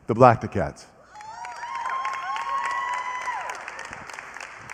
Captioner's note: cheering and applause